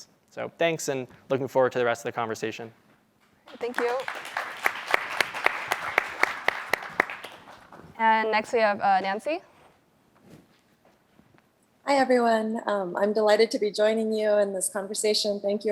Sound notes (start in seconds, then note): 3.4 applause